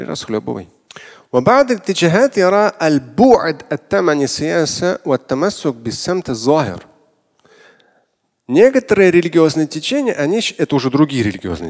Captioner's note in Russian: Говорит на арабском